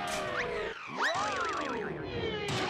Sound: screams

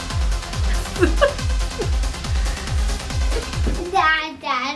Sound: upbeat music; laughs

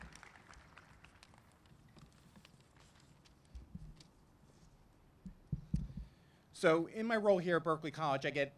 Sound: applause

